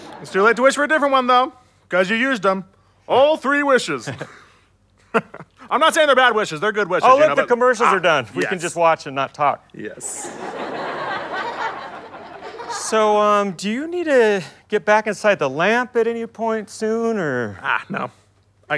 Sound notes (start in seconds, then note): 4.1 chuckle; 10.0 audience laughter